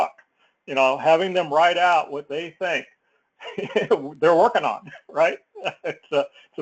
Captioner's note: laugh